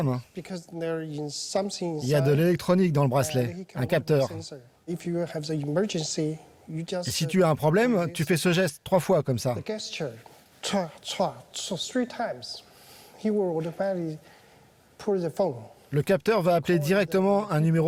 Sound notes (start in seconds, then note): 10.5 vocalizes